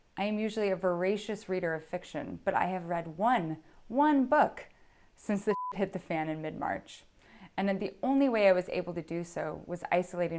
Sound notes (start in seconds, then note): 5.5 beep